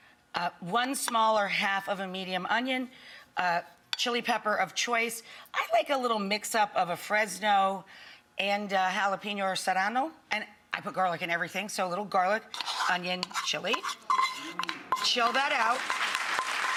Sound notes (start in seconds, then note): 12.2 spoon scraping bowl; 15.7 audience applauds